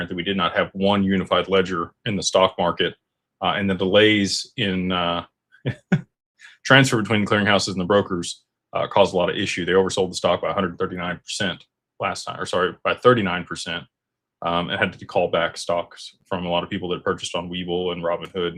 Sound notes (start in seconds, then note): 5.6 laughter